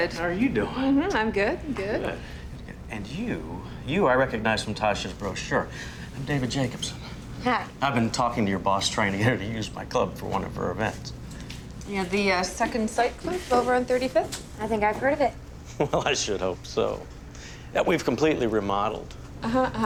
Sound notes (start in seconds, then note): 15.7 chuckles